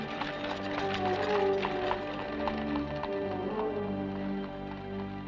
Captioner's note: suspenseful music; carriage clattering; ominous music